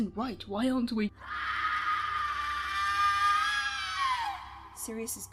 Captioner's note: screaming